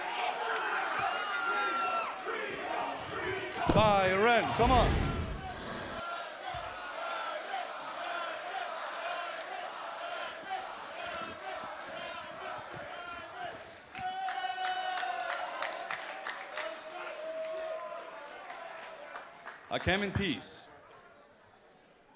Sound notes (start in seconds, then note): 0.2 crowd chatter; 8.6 crowd cheering; 20.7 crowd chatter